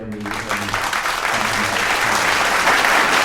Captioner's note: applause